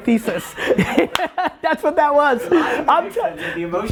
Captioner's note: Gary laughs